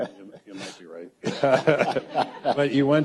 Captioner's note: audience laughs